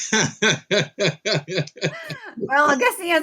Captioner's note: laughing